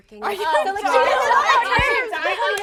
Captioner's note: laughing